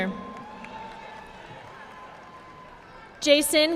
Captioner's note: audience applauding